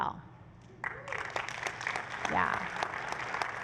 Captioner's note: applause